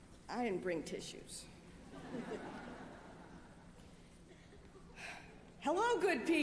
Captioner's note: laughter